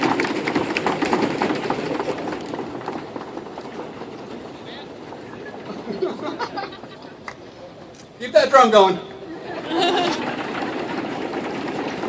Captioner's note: feet stomp; cheers